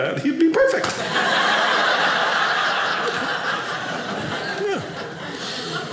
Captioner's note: audience laughing